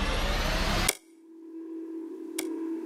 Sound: click

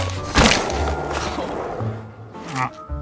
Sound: skateboard rolling; grumble

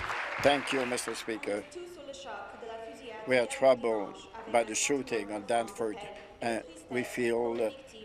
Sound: applause

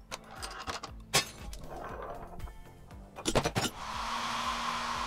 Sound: vase shattering; hairdryer blowing

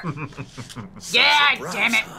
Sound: laughs

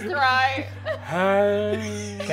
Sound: whimpering

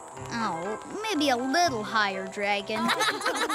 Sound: laugh

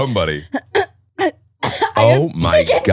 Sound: coughing

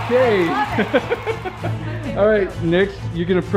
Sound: dad laughing

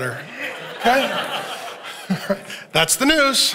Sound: congregation laughing

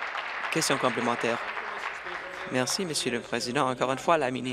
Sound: applause

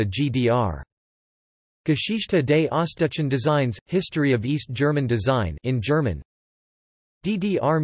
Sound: in German

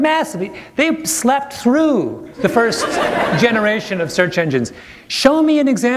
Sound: laughter

